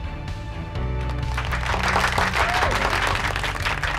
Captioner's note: applauds